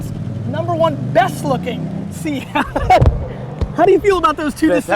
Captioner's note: laughs